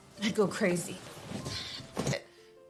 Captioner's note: chair clatters